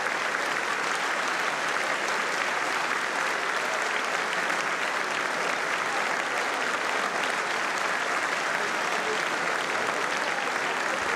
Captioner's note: applause